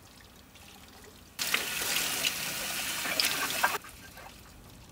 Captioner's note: water sloshing